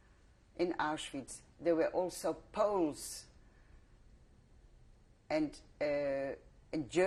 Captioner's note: pauses for 3 seconds